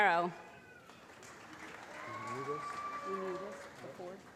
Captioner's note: applause